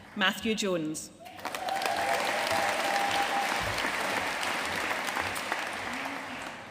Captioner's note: audience cheering and applauding